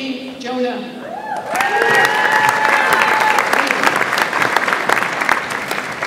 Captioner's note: audience applauds and cheers